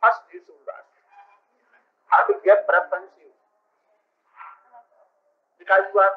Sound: Hindi

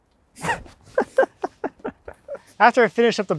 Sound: laughing

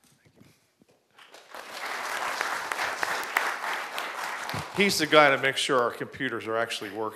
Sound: applause

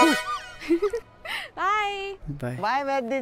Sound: giggling

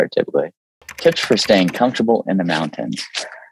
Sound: keyboard clicking

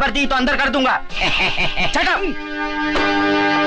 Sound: laughing

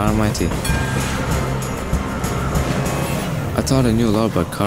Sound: bell dings

